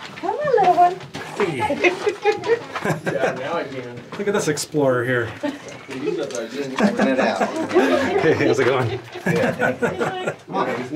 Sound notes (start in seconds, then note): 1.6 laughter; 7.3 laughter; 10.2 laughter